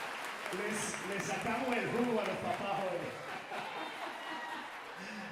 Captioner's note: speaker speaking Spanish